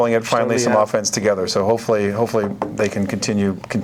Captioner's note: knocks wood